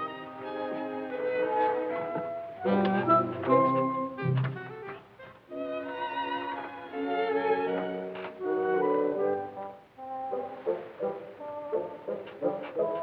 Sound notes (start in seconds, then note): none